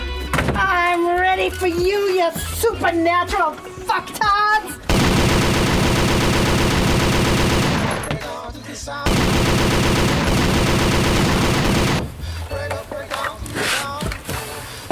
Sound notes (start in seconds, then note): 4.9 machine gun fire